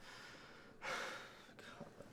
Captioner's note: Jesse is still breathing hard